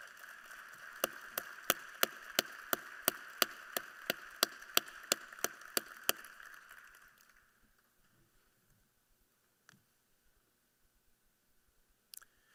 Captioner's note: applause